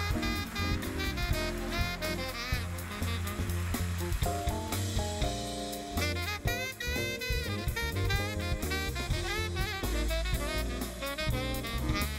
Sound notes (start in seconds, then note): 0.0 applause; 3.7 saxophone solo